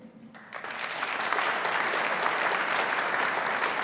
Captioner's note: audience applauding